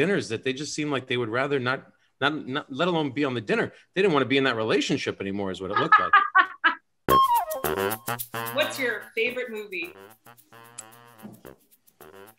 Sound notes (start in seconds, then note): 5.7 laughter